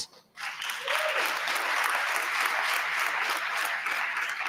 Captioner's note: audience applauding